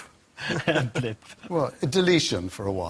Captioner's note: laughs